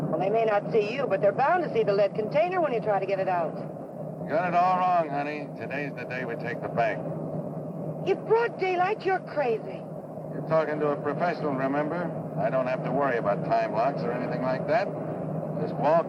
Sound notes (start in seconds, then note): none